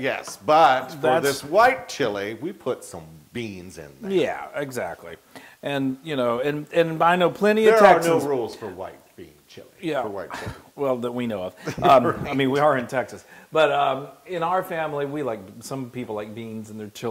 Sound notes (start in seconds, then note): 11.6 laugh